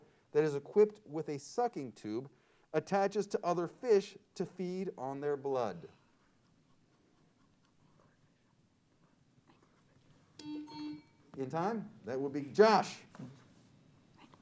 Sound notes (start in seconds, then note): 10.4 buzzer sounds; 10.4 bell pings